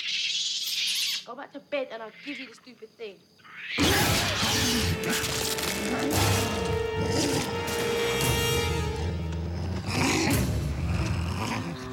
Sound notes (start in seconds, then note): 3.7 snarling; 7.3 growling